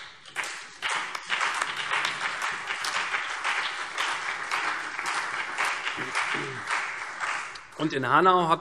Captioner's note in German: Beifall CDU, BÜNDNIS 90/DIE GRÜNEN, Freie Demokraten, vereinzelt SPD und AfD